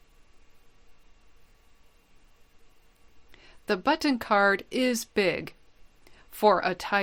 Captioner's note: pause